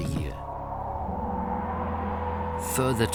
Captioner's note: wind howls